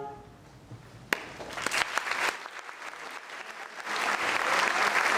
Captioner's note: audience applauding